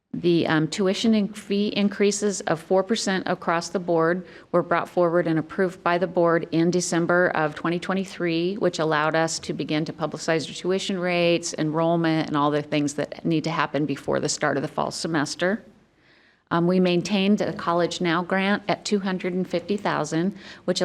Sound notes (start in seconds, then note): none